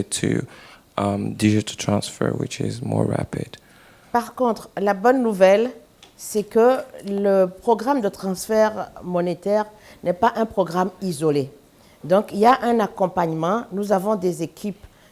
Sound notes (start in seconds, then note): 9.9 speaking french